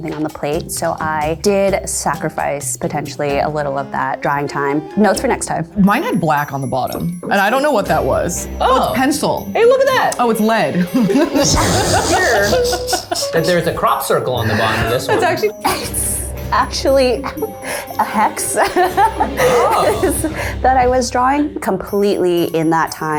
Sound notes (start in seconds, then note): 10.8 laughter; 18.0 laughing